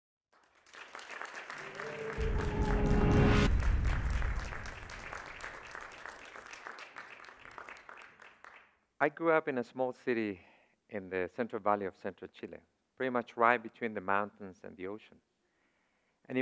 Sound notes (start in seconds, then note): 0.3 crowd applauds; 1.5 reverberating music